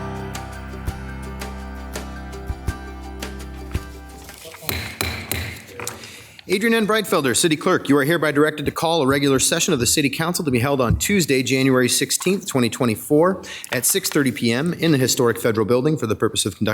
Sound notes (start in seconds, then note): 0.0 upbeat music; 4.6 object banging